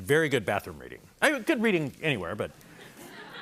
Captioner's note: laughter